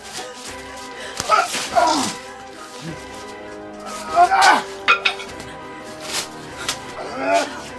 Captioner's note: smack; struggling